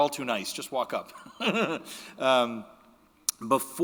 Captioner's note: chuckles